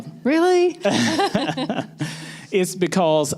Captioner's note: laughter